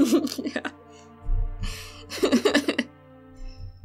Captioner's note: laughing; laughter